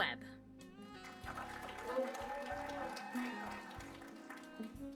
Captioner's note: applause